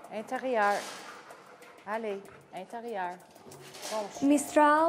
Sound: speaking French

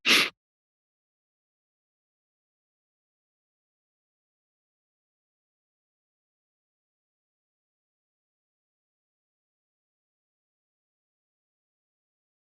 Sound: moment of silence

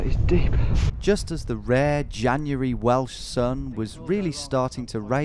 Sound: voiceover

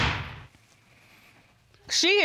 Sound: gavel banging

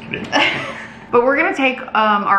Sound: laughing

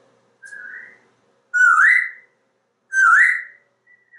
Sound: whistling in the background; Einstein whistling back; whistling again

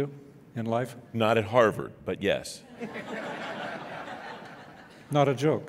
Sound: laughing

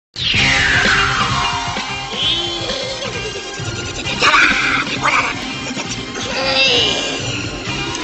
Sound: indistinct growling and chirping

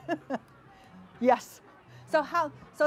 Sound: laughs

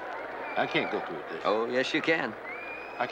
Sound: cheering

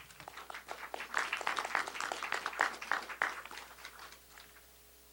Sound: applause

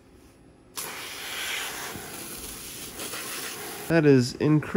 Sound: hissing sounds

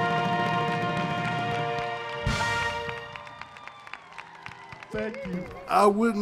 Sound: applause

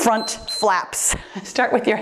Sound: timer beeps

